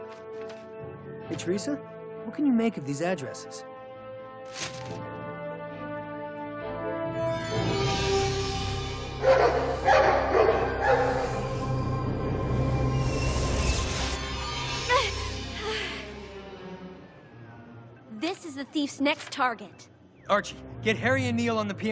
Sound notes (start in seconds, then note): 9.2 dogs barking